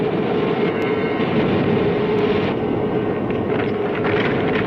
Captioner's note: flames swooshing